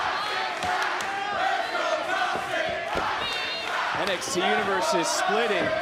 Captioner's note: crowd chanting "toxic sucks"